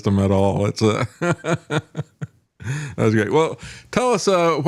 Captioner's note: laughing